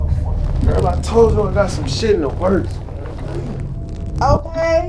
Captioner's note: mutters